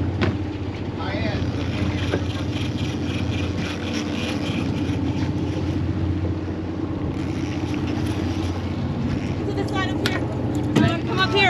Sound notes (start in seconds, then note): 1.3 reel cranking; 3.9 boat engine idling